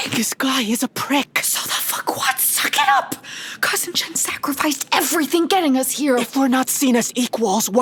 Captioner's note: whispering